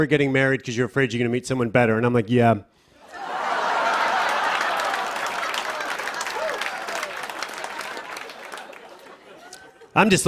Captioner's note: laughter and applause